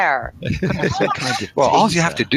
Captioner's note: laughs